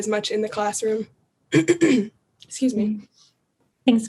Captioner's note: cough